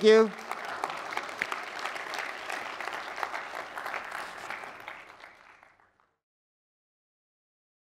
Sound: applause

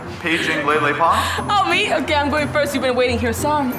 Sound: laughs

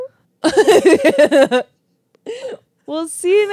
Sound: laugh

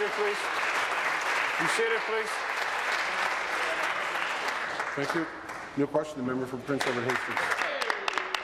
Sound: applause

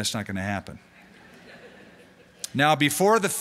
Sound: laughter

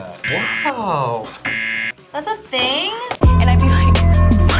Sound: buzzer rings

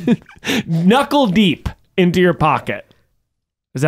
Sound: laughing

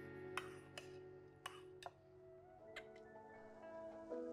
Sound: gentle music; spoon clanking; gentle music

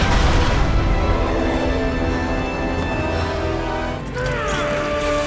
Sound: alien ships explode; grunts

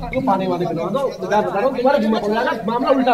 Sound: non-english speech

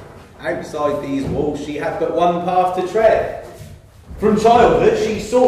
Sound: none

